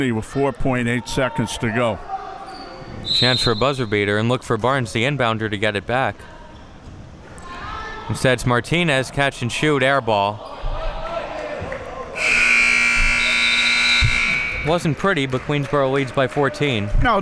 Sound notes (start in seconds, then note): 11.3 spectators chattering; 12.1 buzzer blaring